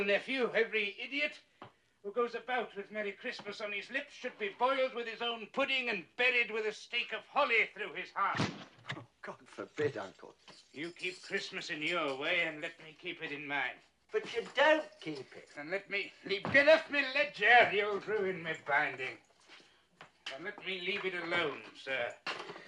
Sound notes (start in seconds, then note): none